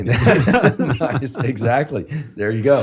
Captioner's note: both laughing